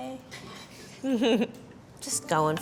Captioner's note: chuckles